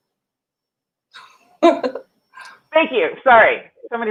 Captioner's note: laughing